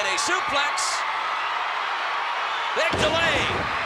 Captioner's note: crowd cheering